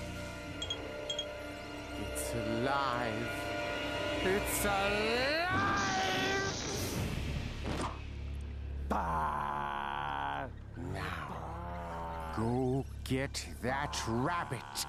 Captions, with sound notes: IT'S ALIVE. IT'S ALIVE! [growling] NOW, GO GET THAT RABBIT.